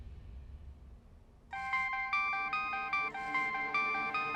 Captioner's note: mobile phone ringing